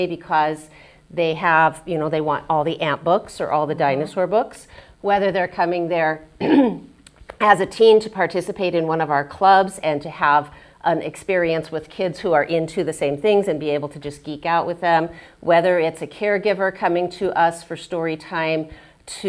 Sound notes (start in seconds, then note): 6.4 clears throat